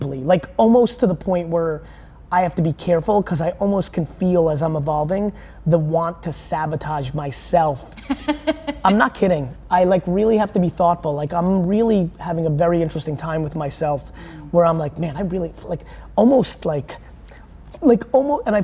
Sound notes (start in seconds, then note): 8.0 laughing